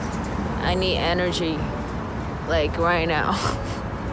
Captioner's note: laughs